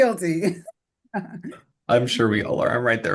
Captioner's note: laughter